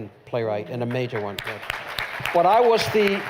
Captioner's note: applause